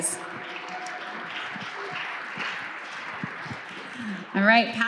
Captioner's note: audience clapping